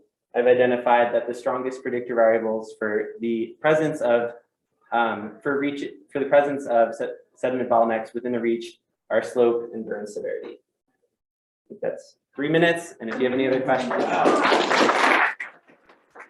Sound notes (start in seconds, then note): 13.1 audience clapping